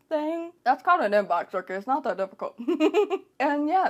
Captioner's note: laughs